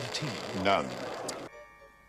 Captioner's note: tsk